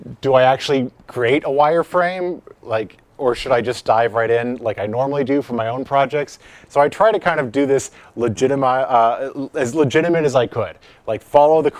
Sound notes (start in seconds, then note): none